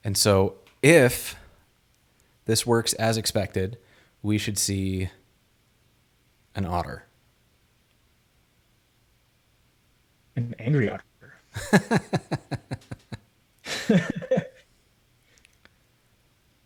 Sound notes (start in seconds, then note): 11.5 laughs